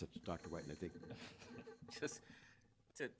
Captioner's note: chuckling